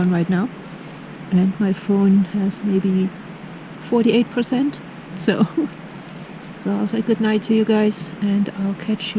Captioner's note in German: lacht